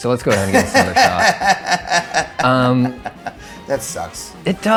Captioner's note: laughing